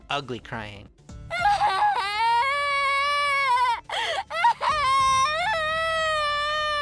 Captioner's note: naomi crying